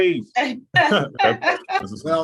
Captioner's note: laughter